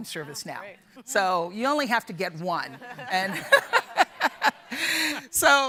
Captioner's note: laughs